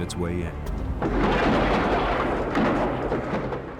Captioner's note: explosion